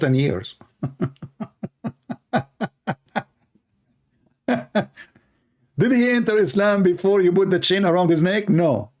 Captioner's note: Ketawa